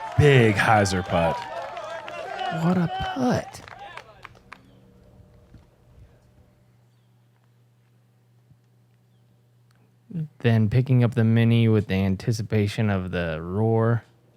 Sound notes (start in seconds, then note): 5.2 silence